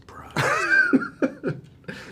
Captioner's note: laughs